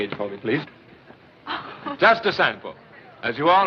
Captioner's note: Irma Laughs